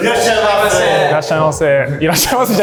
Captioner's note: chefs speaking Japanese; speaks Japanese